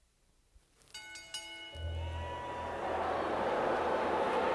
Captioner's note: bell rings